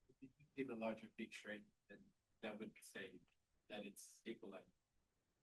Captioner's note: student speaking faintly